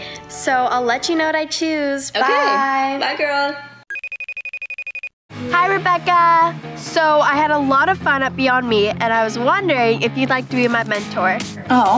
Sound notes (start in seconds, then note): 3.9 cellphone ringing